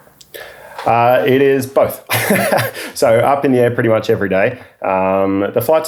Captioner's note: laughing